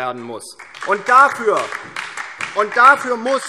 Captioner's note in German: Beifall DIE LINKE und SPD